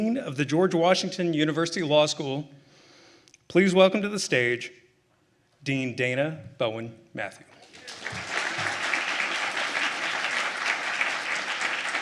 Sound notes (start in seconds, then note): 7.6 everyone applauding